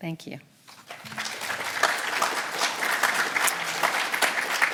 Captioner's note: audience applauding